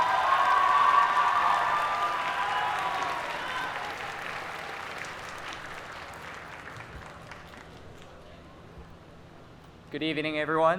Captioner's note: applause